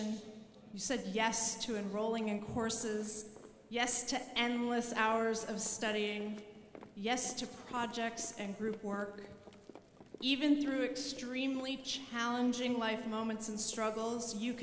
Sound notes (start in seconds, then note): none